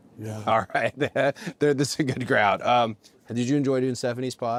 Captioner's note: laugh